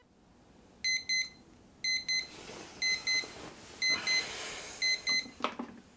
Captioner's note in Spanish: Despertador